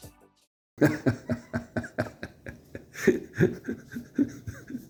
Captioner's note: laughter